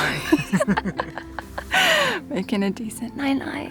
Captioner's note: laughs